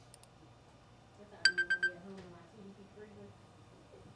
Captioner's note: phone ringing